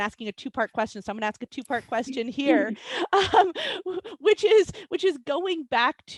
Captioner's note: chuckles